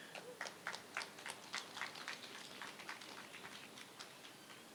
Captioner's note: applause